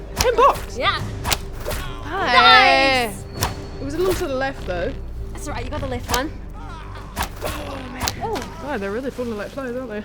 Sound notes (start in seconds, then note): 1.0 fwip; 3.2 fwip